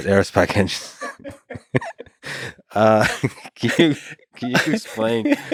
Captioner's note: Lex laughs; Tim laughs